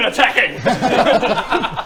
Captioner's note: laughs